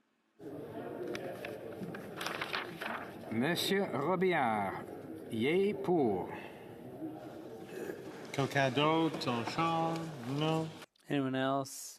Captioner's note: speaking French